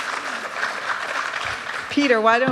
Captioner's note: applause